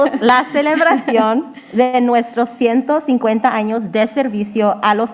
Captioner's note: speaking in foreign language